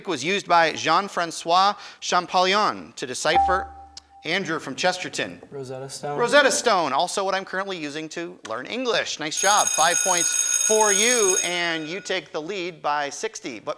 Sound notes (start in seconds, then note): 3.7 buzzer chimes; 9.3 alarm rings